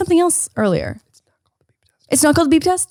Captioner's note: whispers